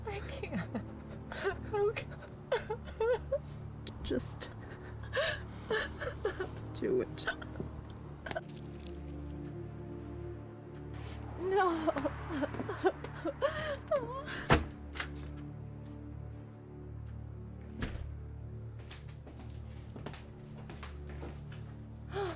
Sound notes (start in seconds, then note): 2.4 Julie cries; 7.1 Julie sobs; 8.3 blood squishes as knife is removed; 11.4 Julie sobs; 14.6 door clicks open; 16.4 eerie music; 18.8 high heel footsteps walk forward